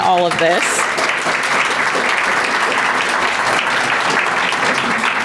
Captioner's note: audience applauding